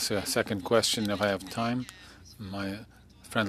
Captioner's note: speaking in French